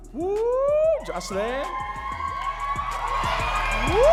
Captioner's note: audience cheering and clapping